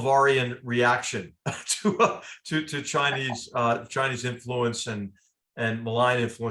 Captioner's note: laugh